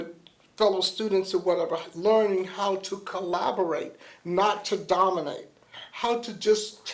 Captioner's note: none